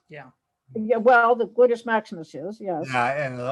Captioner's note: laughs